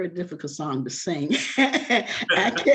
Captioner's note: all laughing